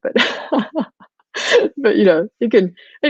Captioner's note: laughs